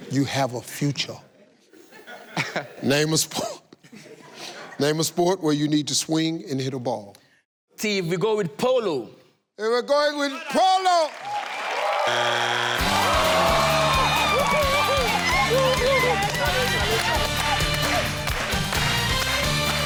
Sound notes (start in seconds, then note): 11.4 error sound; 12.2 gleeful music; 12.8 audience cheers; 16.0 audience claps